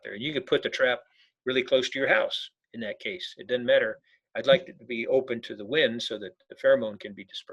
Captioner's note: none